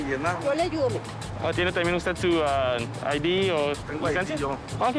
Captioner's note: speaking Spanish